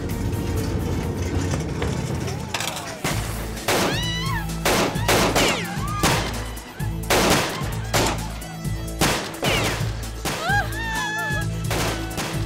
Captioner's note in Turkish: Silah sesleri ve kadın çığlığı